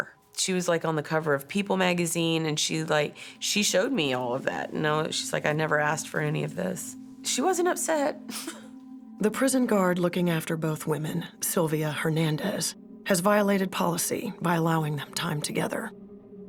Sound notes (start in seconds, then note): 8.3 chuckles